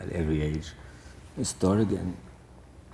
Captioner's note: French